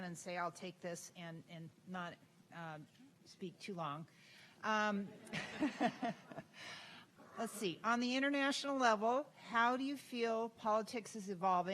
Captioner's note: laughter